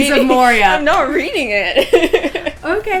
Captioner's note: laughing; laughter